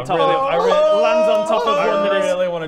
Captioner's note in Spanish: grito de Tarzán